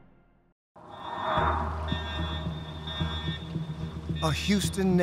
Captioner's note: loud beeping